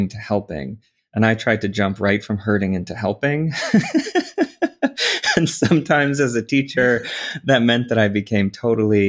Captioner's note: laughs